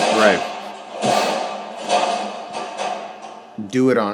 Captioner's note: locker banging